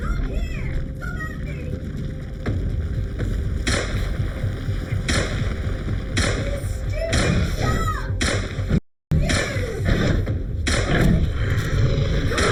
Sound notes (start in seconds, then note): 3.6 gun banging; 11.0 shark roaring